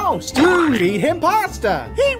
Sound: splat

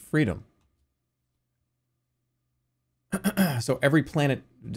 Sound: clears throat

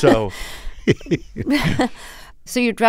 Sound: laughter

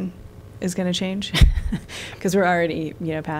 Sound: laughter

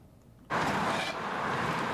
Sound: cars drive by, scraping, and trucks

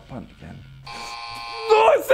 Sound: wrong noise

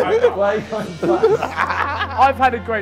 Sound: JJ laughing

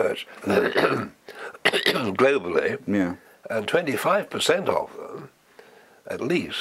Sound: cough

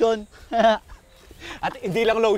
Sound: laughs

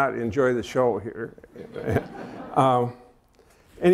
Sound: laughter

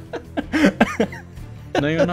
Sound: laughing

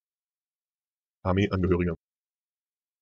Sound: fast Pronunciation

